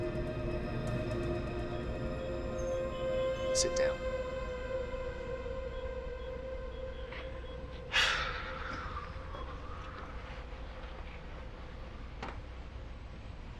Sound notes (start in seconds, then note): 7.9 Daveyboy sighing